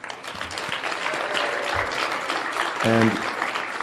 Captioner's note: audience clapping; audience cheering